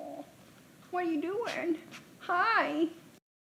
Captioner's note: groans; dog sniffs